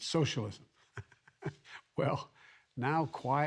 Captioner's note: laughs